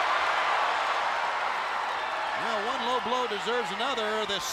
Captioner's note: applause